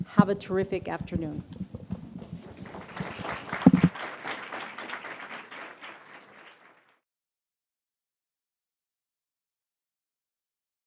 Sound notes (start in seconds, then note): 2.3 applause